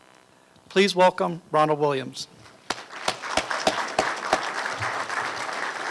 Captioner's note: applause